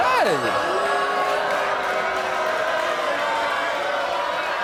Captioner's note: hollering